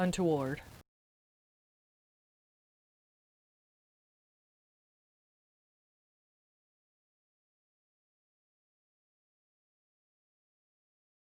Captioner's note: no Sound Present